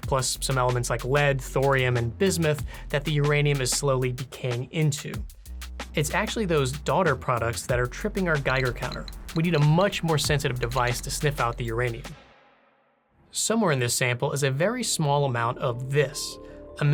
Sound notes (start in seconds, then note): 8.3 counter clicks; 13.9 dramatic music